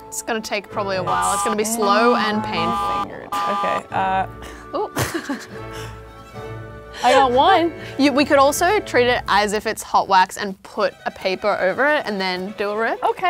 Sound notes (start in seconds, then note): 1.0 alarm buzzes; 4.8 laughing; 5.7 upbeat classical music